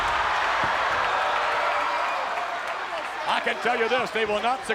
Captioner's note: audience cheers